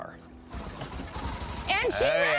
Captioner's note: engine starts